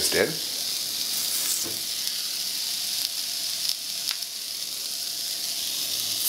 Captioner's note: sizzling